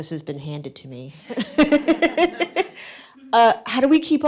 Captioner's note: laughter